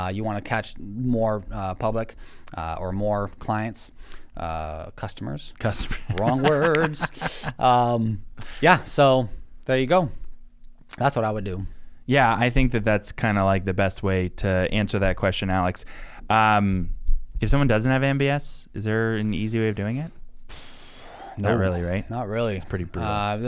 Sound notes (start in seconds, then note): 6.1 laughs